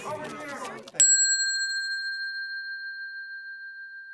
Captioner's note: bell dings